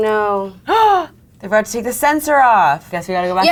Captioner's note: gasps